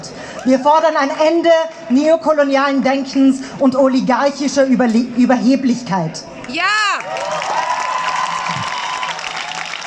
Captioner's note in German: Applaus